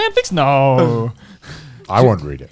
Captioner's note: laughs